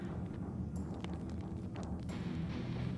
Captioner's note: rocks trickling